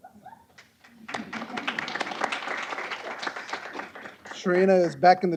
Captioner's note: applause